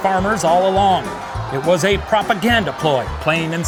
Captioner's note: audience booing